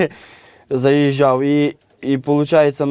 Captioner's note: laughs